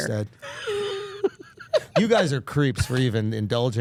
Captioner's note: Steph laughing